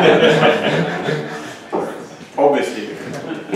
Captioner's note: laughter